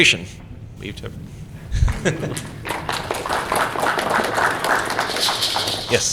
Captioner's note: applause